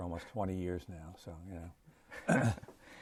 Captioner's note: laughter